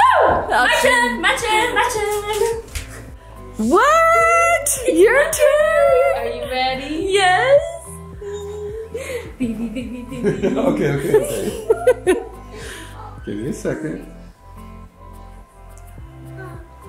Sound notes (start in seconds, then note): 8.3 chuckles; 11.8 giggles